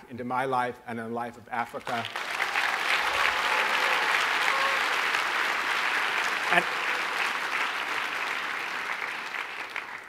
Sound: applause

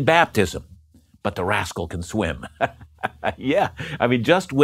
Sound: laughs

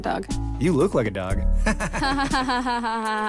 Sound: laughs

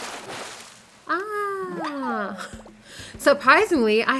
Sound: unimpressed noises

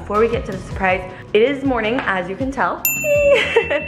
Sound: laughs

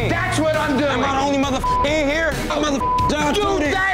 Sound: beep

